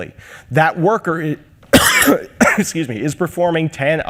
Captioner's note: coughs